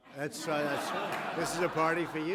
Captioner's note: laughter